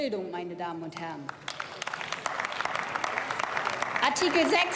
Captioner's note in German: Beifall